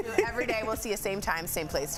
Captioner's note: laughter